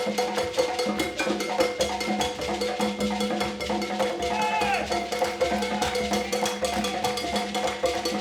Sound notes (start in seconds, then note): 4.2 people cheering